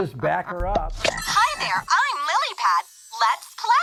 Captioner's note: toy beeps; upbeat music